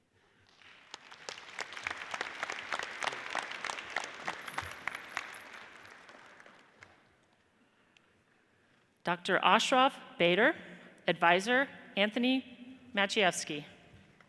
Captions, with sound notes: (audience applauds) Dr. Ashraf Bader, adviser Anthony Maciejewski.